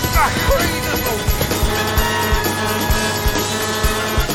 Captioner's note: shouting; horn honking